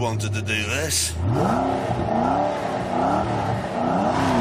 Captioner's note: revving